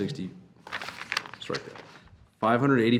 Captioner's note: paper crackling